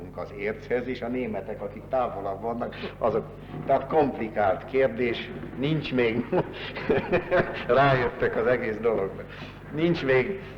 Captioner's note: laughter